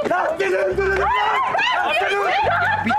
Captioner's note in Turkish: Bağırma sesleri